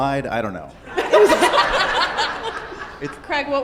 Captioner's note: audience laughs